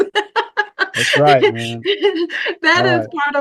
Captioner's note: laughs